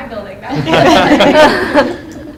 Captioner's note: laughs